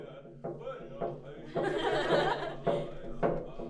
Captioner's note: laughing